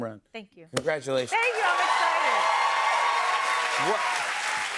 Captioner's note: cheers and applause